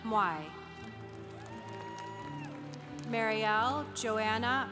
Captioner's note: congregation applauding